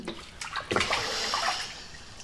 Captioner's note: exhales